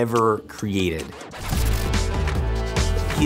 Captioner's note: Epic music intensifies; Glitch